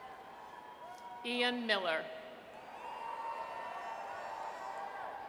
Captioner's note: audience cheers; audience cheers